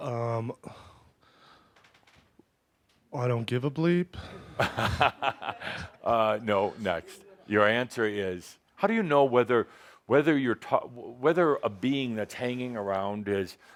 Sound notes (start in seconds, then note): 4.2 laughing